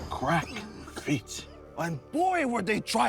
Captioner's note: coughs